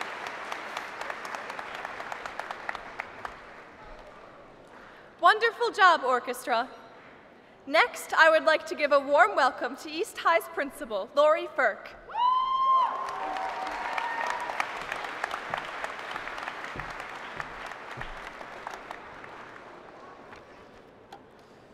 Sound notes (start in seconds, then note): 0.0 applause; 12.1 cheering; 16.0 applause